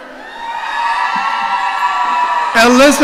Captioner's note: audience cheering